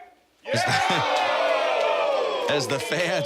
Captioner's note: audience oohing